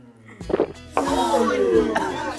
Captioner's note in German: Schlucken; Angeekelte Laute